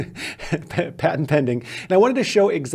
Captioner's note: laughs